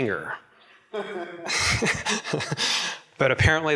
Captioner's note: laughing